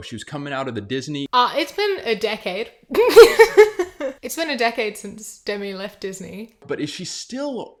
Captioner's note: laughs